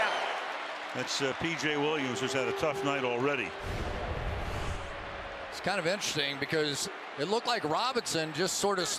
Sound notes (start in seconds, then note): 3.4 swoosh